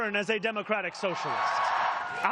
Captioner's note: cheering